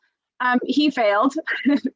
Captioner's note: chuckles